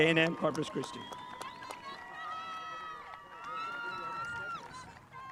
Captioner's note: spectators applauding